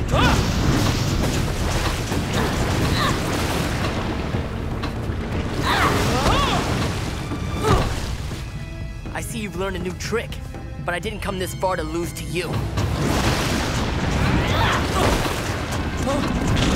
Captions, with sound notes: [roaring] [groaning] [screaming] I see you've learnt a new trick, but I didn't come this far to lose to you. [groaning]